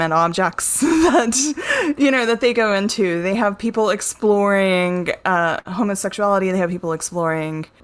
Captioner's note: laugs